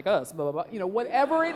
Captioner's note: laughing